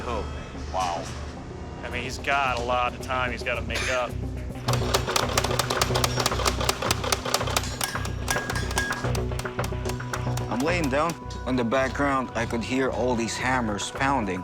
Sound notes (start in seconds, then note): 4.6 hammers pounding